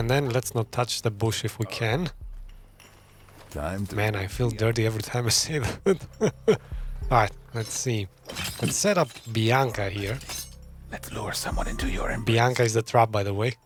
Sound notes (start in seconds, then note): 4.5 laughs